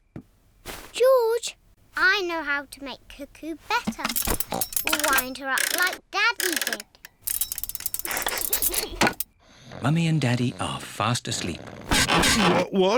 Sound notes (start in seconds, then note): 4.7 oink!; 8.0 laughs